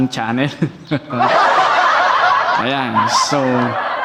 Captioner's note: laughing